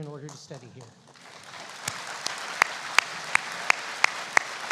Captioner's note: applauding